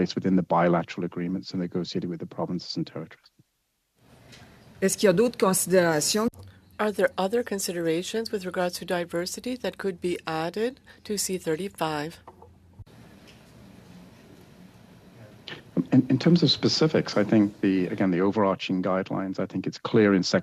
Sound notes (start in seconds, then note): 8.8 speaking French